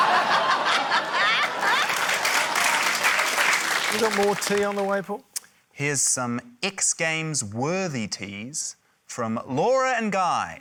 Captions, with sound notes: (APPLAUSE) - Have you got more tea on the way, Paul? - Here's some X Games-worthy teas from Laura and Guy.